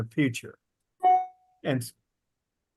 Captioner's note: alarm beeping